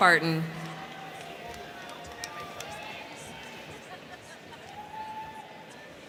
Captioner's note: crowd cheering; crowd clapping